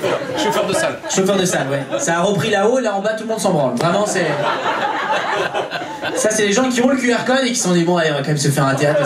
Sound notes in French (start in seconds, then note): 3.9 rires public